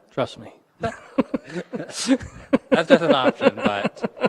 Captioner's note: chuckling